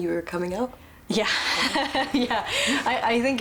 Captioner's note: laughs